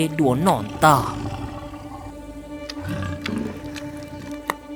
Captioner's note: sound of eating